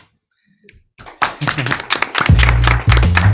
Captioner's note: applause